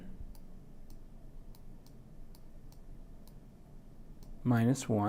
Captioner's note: computer mouse clicking